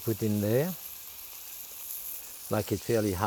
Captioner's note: pan sizzling